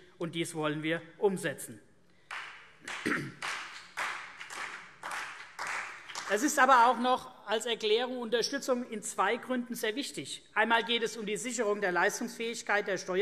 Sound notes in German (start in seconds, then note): 2.3 Vereinzelter Beifall CDU und BÜNDNIS 90/DIE GRÜNEN